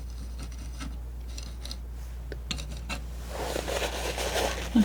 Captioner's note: scratching